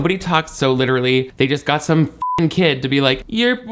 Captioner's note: beep